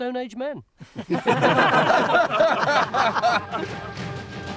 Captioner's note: team laughing